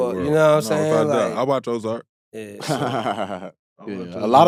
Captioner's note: laughing